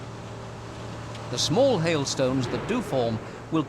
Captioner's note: thunder